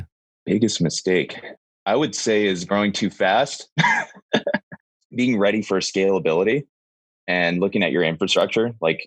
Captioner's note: laughs